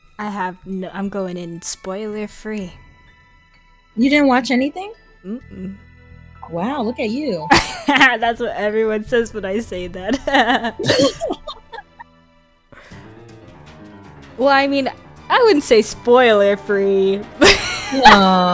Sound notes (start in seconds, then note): 10.1 both laugh; 10.2 laughs; 17.4 laughs